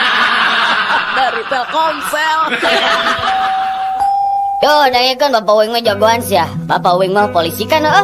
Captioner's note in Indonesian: tertawa